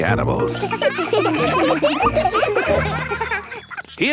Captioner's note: children laughing